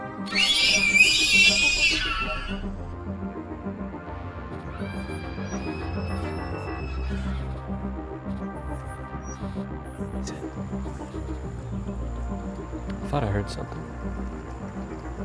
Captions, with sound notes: [shrieking noise] [shrieking noise in distance] [Rogers whispers] What is it? I thought I heard something. Be ready.